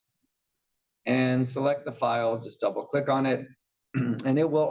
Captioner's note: cough